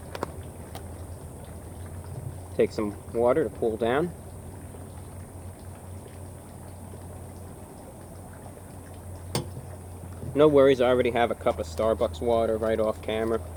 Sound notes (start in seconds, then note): 4.1 dignified sipping